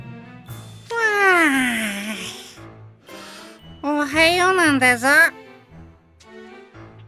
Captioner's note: yawn